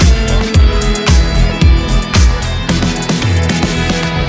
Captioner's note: static hissing